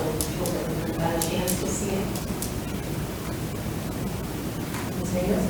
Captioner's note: speaks distantly